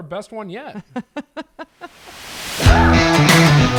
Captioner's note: laughs; upbeat music